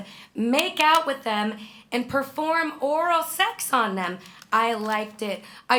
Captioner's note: none